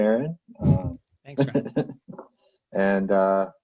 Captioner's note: chuckles